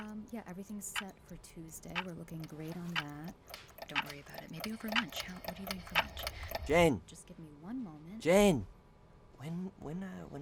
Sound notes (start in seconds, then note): 0.0 murmuring; 0.0 wall clock and watch ticking; 0.2 murmuring; 1.7 wall clock and watch ticking; 1.7 wall clock and watch ticking getting louder; 2.0 murmuring; 3.8 wall clock and watch ticking getting louder; 6.6 shouting; 7.5 murmuring